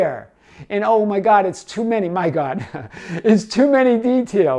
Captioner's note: chuckles